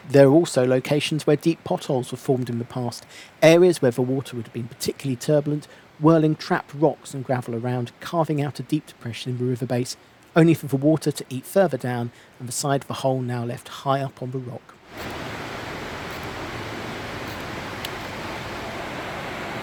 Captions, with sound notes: There are also locations where deep potholes were formed in the past, areas where the water would have been particularly turbulent, whirling trapped rocks and gravel around, carving out a deep depression in the river base, only for the water to eat further down and the side of the hole now left high up on the rock. [SOUND OF RUSHING WATER]